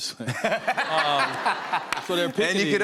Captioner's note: laughter